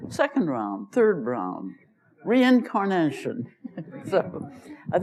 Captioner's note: laughter; laughs